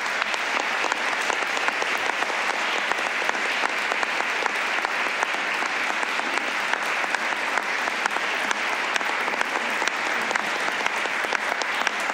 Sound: applause

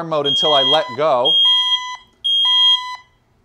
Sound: alarm ringing

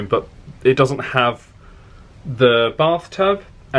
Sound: none

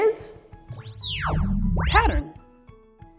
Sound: magical sound

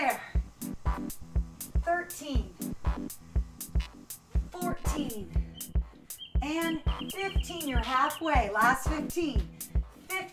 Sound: exhaling deeply

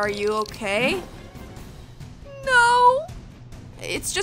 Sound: crying

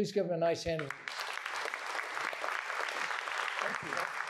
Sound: applause

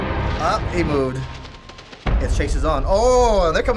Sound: scurrying

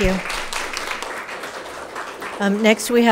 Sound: audience applauds

